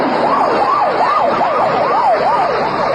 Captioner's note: sirens passing